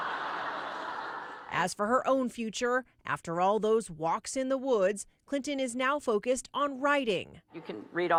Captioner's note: laughter